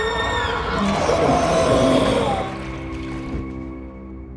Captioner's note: creature growls